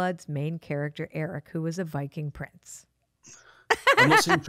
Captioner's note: laughs